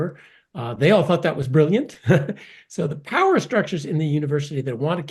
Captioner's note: laugh